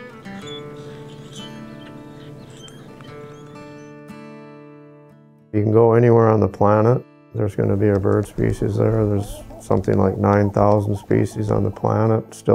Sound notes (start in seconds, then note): 0.1 calm guitar music; 1.7 birds chirp